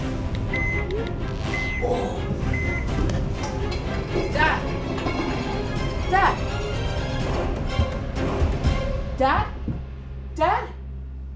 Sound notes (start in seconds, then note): 1.8 dad gasps